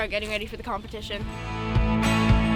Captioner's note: bird chirping; motivating music